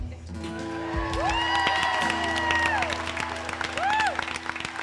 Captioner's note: attendees applauding